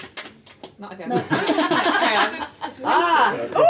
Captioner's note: laughing